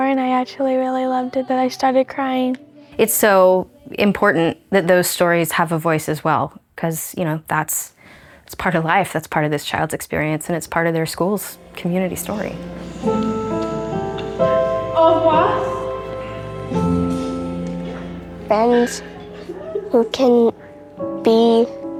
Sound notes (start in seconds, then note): 13.1 sad piano music; 15.1 speaking French